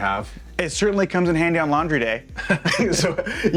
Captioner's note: chuckles